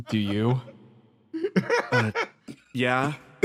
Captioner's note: laughs